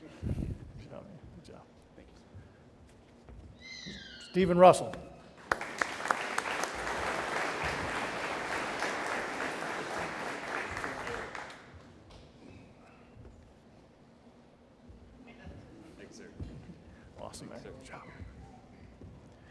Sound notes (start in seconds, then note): 5.4 audience applauding